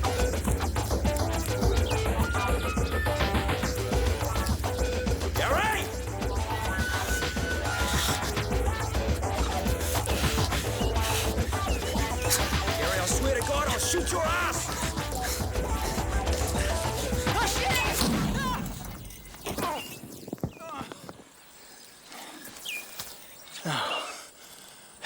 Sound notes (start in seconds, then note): 0.0 groans; 0.3 energetic funky music; 17.8 shouts; 17.9 explosion rumbles; 23.5 sighs